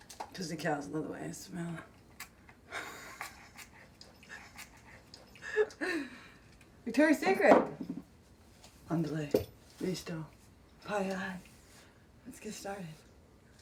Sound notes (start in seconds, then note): 4.2 laughs; 9.0 speaking Spanish